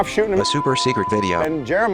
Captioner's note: robotic Voice